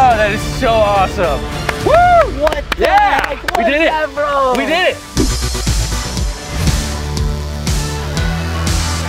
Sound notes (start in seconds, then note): 1.8 cheering